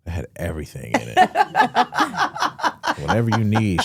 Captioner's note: hosts laughing